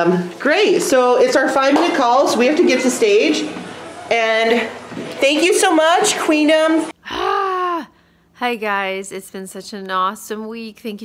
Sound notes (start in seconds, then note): 7.0 happy groaning